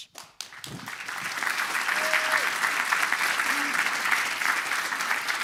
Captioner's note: applause